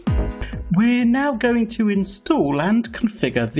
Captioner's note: voiceover